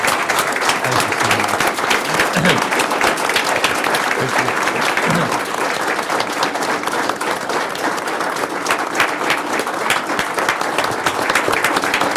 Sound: applause

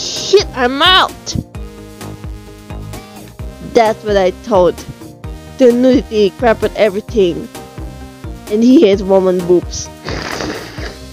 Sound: silent laughing

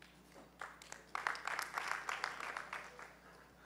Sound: applause

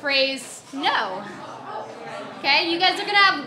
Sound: audience chatters

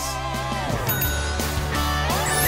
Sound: bell dings

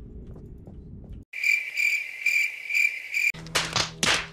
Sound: cricket chirping

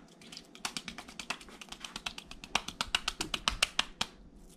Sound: wet slapping

